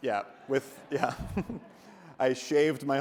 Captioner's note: audience laughs; laughs